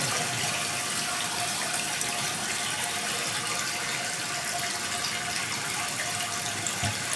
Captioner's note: water trickling continues